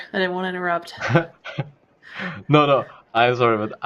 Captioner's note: laughs